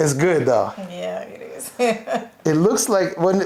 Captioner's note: laughing